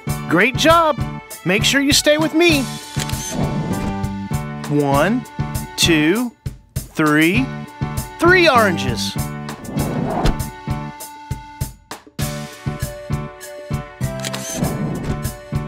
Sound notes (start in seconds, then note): 2.8 SFX: Camera Shutter; 14.1 SFX: Camera Shutter